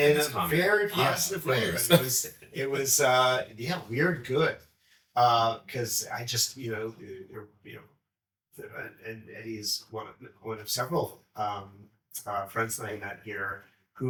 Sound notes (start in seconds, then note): 0.9 laughs